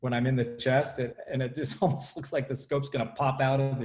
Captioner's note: laughs